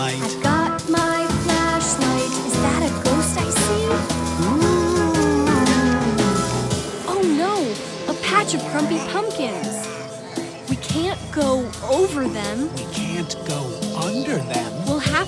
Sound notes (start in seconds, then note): 4.8 ghost wailing